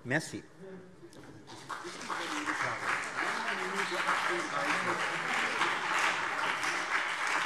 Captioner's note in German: Beifall CDU und BÜNDNIS 90/DIE GRÜNEN